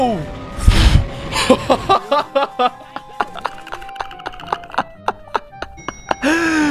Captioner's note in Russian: Страное хихикание